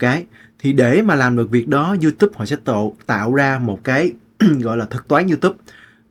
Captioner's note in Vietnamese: hắng giọng